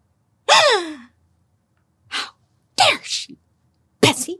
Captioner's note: gasps